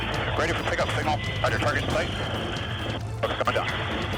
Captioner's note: person Over Radio